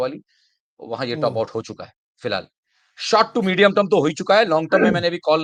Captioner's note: sound of clearing throat